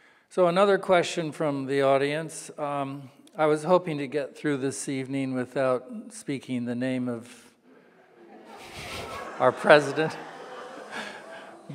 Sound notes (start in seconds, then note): 7.8 laughing; 10.5 audience laughing